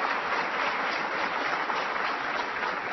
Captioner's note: applause